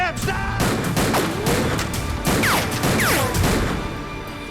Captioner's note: gun fires